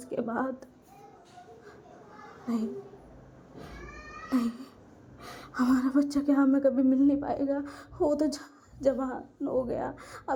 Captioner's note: crying